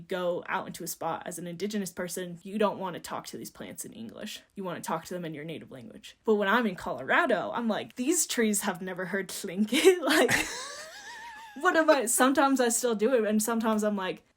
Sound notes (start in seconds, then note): 10.1 laughing